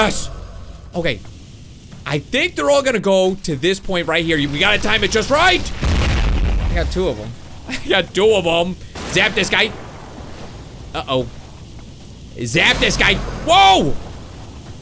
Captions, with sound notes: Yes, okay. I think they're all gonna go to this point right here. We gotta time it just right! (meteor crashes) I got two of 'em. I got two of 'em. Zap this guy. Uh oh. Zap this guy, whoa!